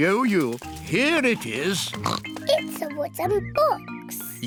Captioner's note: oinks